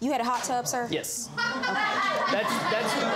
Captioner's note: audience laughing